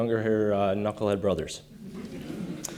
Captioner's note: audience laughter